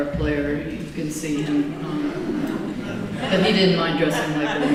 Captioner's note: laughter